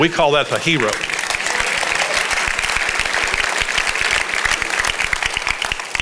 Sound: congregation applauds

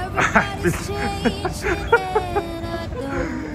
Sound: mocking

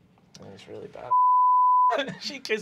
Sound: beeping

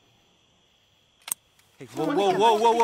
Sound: gun clicks

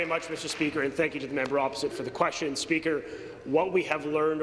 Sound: applause

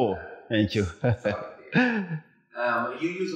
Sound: laughs

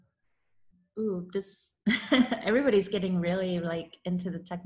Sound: laughs

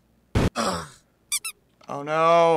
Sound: raspily; dying groan; squeak

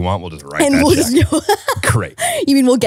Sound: laughing

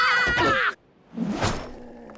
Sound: screaming

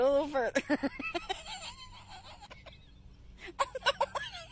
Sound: laughing

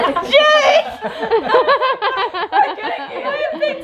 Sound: everyone laughing

